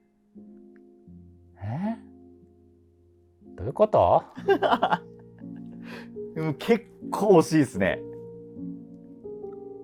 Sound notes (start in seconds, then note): 4.4 laughing